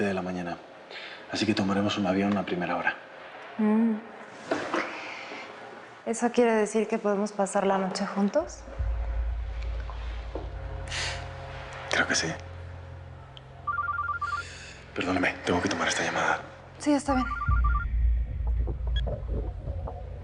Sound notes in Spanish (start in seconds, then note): 13.6 Suena el celular